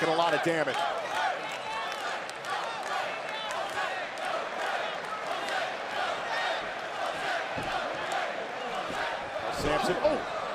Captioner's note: crowd cheering